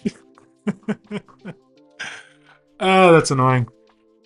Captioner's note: laughs